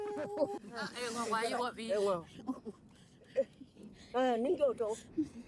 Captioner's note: speaks foreign language